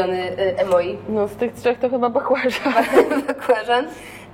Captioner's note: laughs